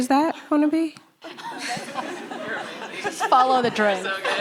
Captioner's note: laughing